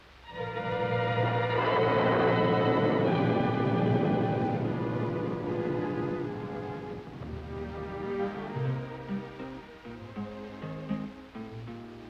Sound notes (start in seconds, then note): 2.3 thunder; 8.8 guitar playing